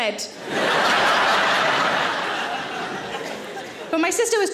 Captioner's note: audience laughing